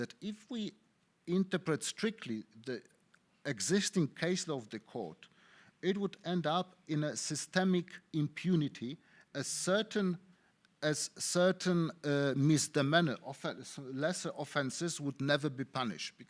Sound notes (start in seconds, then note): none